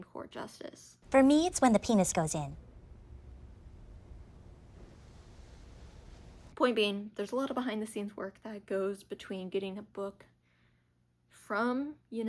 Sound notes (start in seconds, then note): 5.2 awkward silence